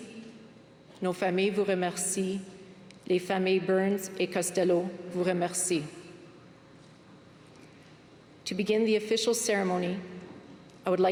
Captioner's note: speaking french